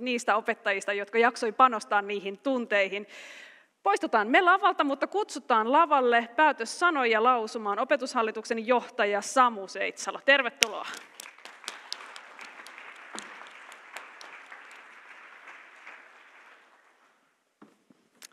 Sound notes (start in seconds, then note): 12.3 applause